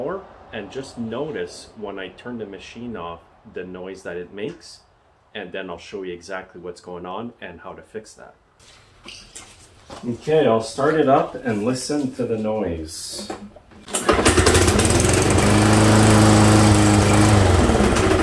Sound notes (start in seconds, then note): 14.0 engine revving